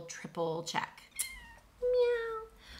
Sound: cat meows

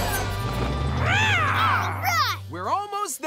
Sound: roars

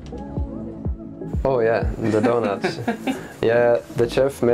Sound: laughs

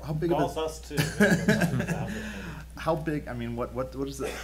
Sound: laughing

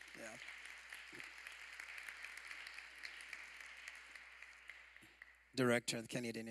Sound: applause

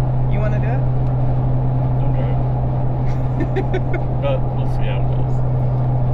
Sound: laughing

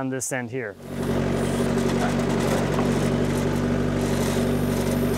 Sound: skid steer engine humming

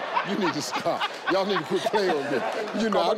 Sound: laughs

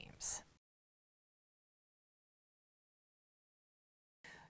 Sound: no Sound Present

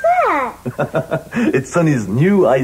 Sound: laughs in shortwave

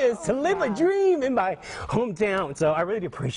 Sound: voice Wavering

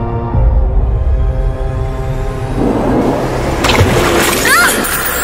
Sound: water splashing down

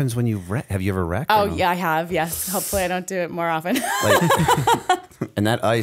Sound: laughter

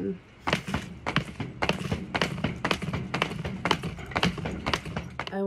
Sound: ropes thwacking

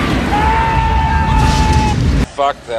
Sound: yelling

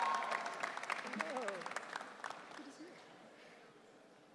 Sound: audience cheering

